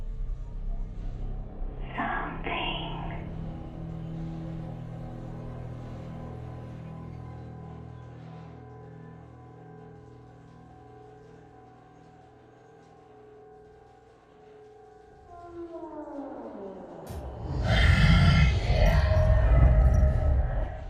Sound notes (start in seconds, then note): 4.2 gentle tense music; 15.2 door creaking; 17.2 monster rasping; 20.7 soft tense music